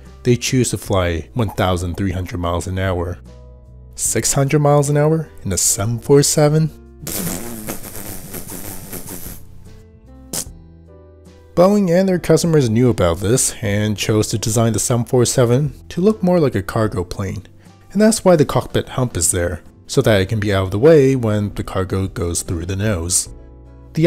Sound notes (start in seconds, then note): 7.0 mouth Noises; 10.3 possible Mouth Noise